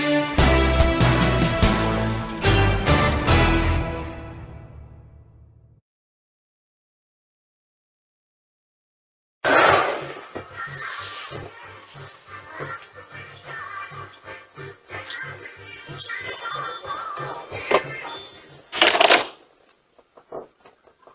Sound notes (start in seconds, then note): 9.3 door closes; 9.3 door opens